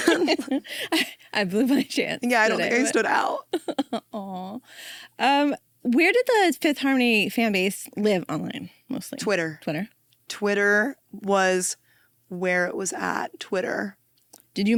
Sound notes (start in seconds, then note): 0.0 both laughing; 2.2 laughs